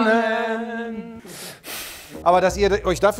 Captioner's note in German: singen; Schnaufen